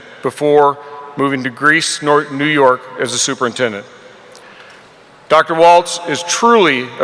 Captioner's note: none